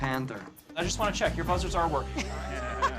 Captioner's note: contestants laugh